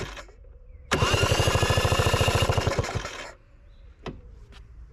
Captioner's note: engine Cranking Sound